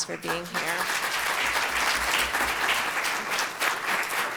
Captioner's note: audience applauds